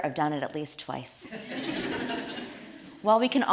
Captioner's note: audience laughs